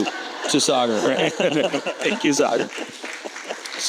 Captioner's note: audience laughing